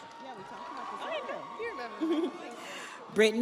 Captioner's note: audience applauds; audience cheers